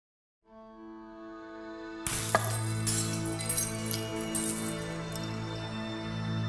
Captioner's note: gentle peaceful music; glass tinkles